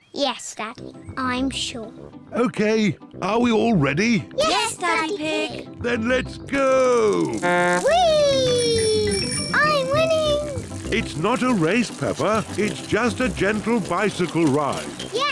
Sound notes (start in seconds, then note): 7.3 blows horn